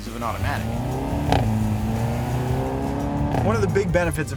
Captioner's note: engine revving